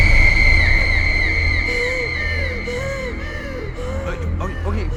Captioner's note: breaths heavily